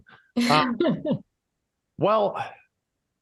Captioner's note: laughing